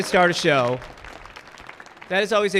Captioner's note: audience clapping